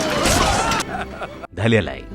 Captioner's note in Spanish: se ríe